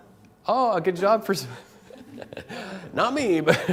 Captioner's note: laugh